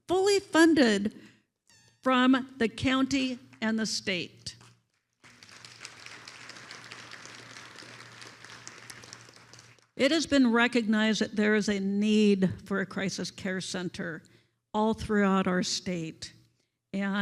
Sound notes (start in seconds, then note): 5.2 attendees applauding